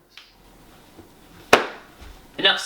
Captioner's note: laptop slams shut